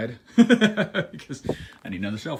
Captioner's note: laughs